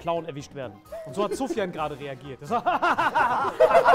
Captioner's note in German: Gelächter; Gespieltes Lachen